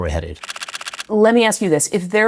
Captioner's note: camera shutter clicks